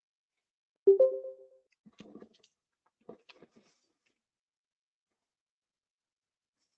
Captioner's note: beeps